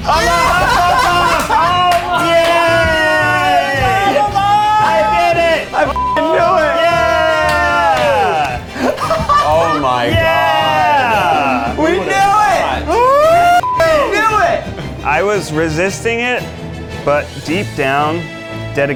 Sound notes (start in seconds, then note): 5.9 beep; 13.6 beep